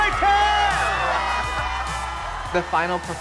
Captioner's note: cheering